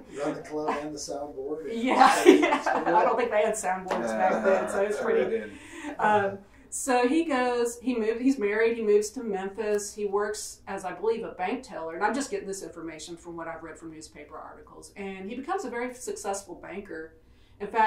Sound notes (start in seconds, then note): 1.8 laughs